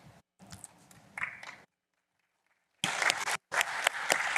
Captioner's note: applause